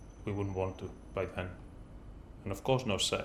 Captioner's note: none